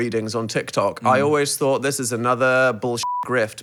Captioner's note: beep